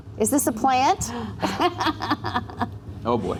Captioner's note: laughing